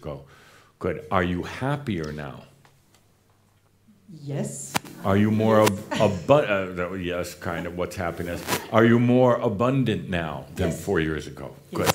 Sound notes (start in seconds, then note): 3.7 slight pause